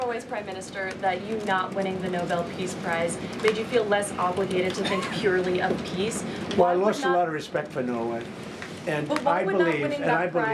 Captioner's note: laughter